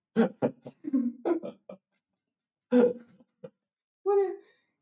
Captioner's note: laughing